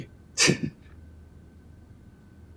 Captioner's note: scoffing